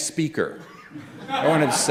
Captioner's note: laughter